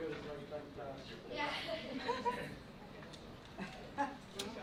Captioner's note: murmuring and laughter